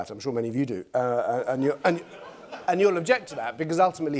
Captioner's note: laughter